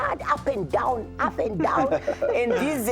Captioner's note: laughter